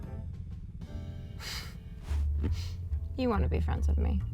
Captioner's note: chuckles softly